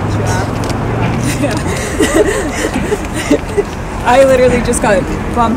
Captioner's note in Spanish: ambos se ríen